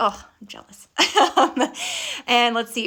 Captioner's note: laughing